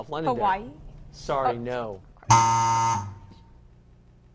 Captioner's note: buzzing